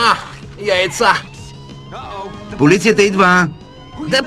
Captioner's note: siren